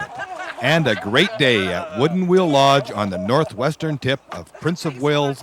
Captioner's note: laughter